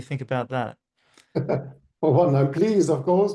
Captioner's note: chuckling